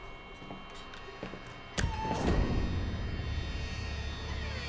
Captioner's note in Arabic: صرير